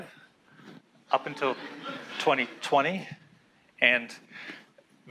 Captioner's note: class laughs